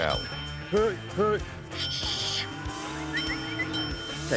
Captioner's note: dings